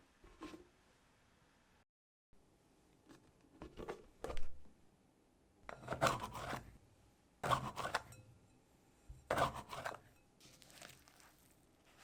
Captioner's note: folding